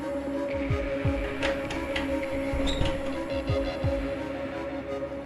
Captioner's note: door unlocks and opens